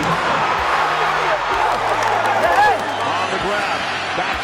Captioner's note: crowd noise